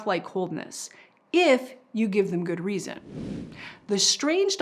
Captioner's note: air whooshes